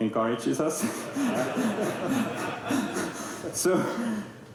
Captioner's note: laughter